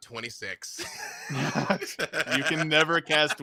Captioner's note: laughs